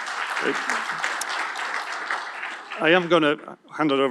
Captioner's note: applause